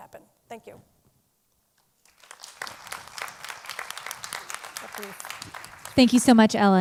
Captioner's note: applause